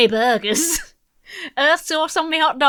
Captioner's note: laughs